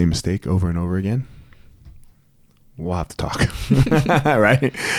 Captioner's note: laughs